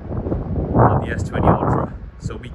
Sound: wind blowing

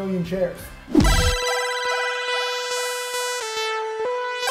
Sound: logo whooshing

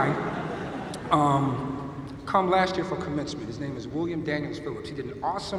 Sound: laughter

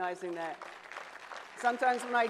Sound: audience applauds

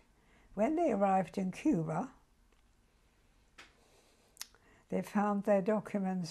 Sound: pauses for 3 seconds

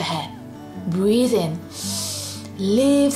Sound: breathes in deeply

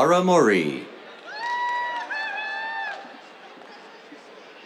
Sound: cheers, applause

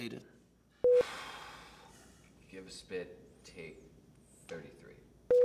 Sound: sigh

